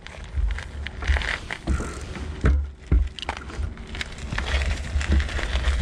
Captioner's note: gravel crunching